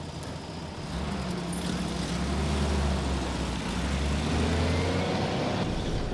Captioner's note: truck engine rumbling